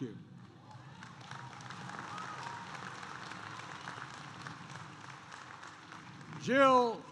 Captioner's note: applause